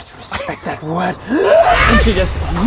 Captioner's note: hyaargh!